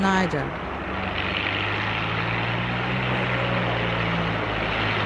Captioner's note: engine rumbling